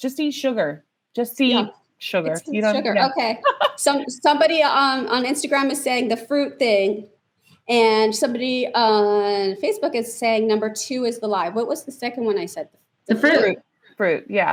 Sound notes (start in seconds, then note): 6.9 laughs